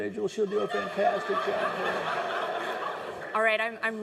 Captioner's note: laughing